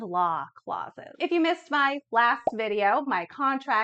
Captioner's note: bubbles bursting